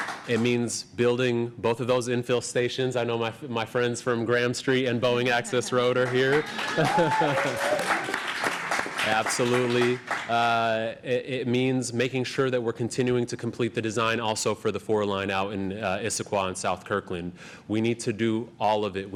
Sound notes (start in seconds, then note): 5.3 applause